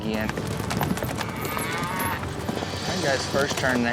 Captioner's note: hoof beats, mooing